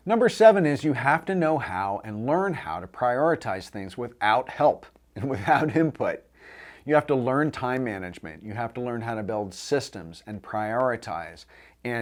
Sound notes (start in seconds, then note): 5.2 chuckles